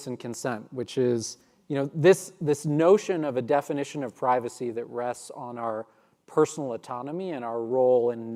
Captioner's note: none